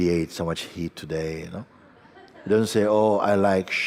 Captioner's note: laughter